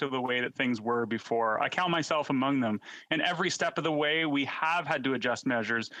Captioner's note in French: voix de l'interprète